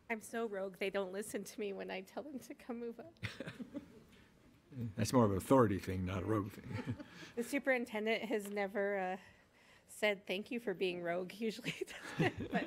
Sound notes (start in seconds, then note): 6.6 attendees chuckling